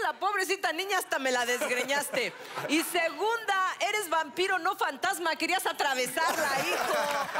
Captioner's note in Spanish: Risas; Aplausos; Carcajadas